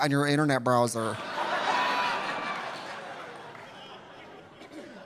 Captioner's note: audience laughing